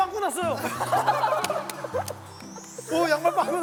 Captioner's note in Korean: 오열